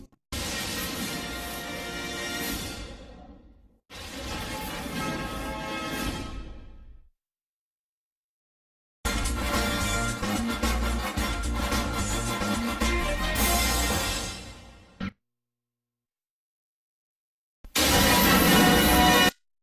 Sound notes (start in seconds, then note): 0.4 lightning and music resuming; 3.8 lightning and music continuing; 8.8 remixed rousing fanfare plays; 15.5 silence; 17.8 lightning and music resuming